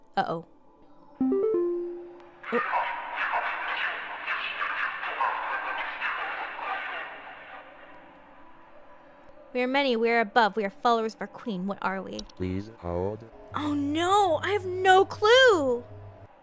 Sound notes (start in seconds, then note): 2.8 a bunch of echoing demonic gibberish